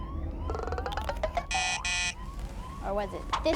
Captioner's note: buzzer